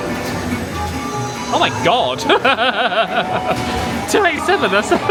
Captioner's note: laughing